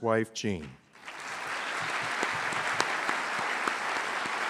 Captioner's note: applause